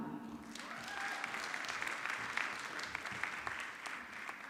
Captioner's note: audience clapping